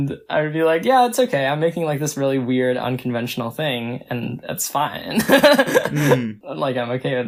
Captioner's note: laughs